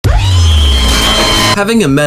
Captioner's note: intro sound, screeching, semi-automatic fire